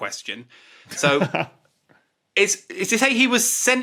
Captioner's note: chuckles